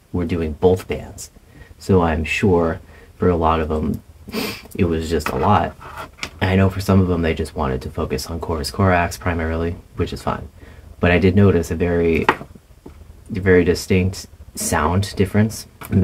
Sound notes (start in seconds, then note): 4.3 sniff